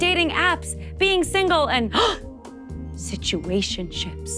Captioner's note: gasps